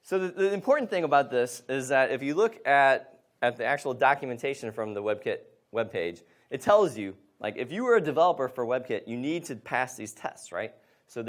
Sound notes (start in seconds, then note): none